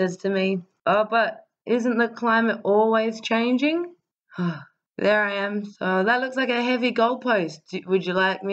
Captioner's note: sigh